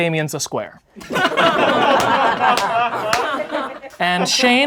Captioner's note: laughing